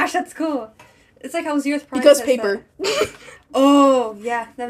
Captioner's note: chuckle